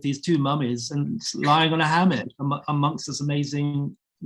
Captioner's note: chuckling